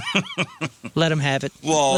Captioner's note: laughing